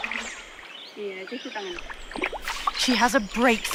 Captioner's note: Letta speaking in foreing language; water rustling